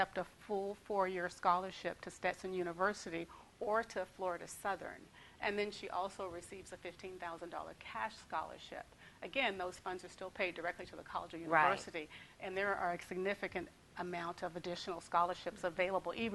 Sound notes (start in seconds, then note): none